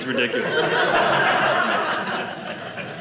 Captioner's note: audience laughing